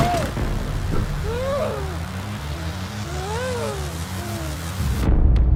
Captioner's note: crying